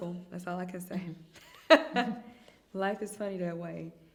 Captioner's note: chuckling